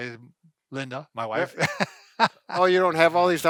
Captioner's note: laughing